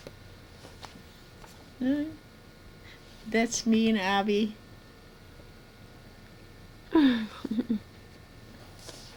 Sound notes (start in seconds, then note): 7.0 laughs